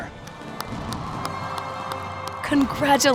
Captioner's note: audience clapping; air whooshing